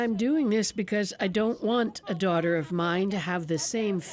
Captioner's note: speaking Alternate Language